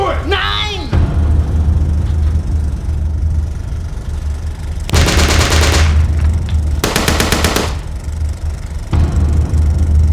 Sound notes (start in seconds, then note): 4.9 gunfire rattles